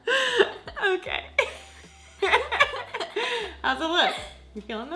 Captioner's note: laughs